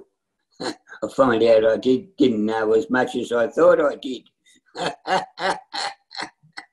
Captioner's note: laughs